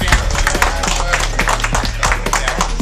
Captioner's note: applause